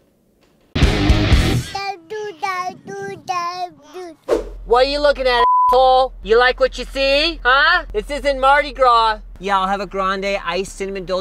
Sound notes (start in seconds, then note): 0.7 rock music; 1.7 baby speaking gibberish; 5.4 beep